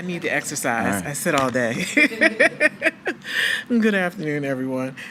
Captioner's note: laughs